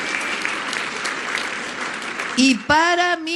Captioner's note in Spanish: aplausos